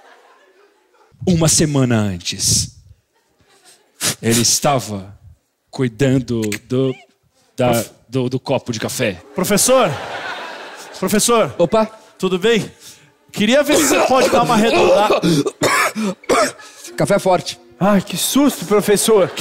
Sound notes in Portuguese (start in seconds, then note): 13.6 tosse